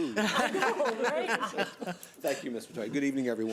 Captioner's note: laughing